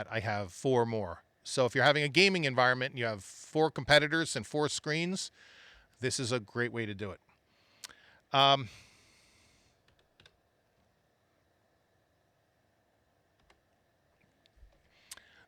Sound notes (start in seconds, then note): 9.8 keyboard Clicking